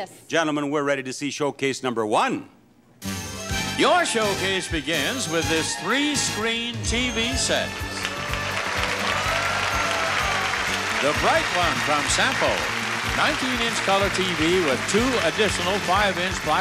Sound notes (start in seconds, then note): 7.7 audience applauding; 7.7 upbeat music